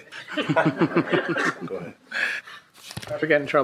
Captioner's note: people laughing